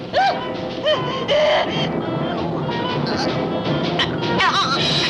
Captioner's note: choking sounds